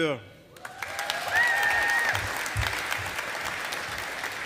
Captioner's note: audience applauding